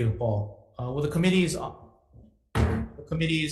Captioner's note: gavel bangs